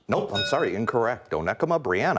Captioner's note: bell rings